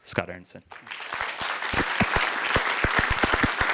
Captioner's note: applause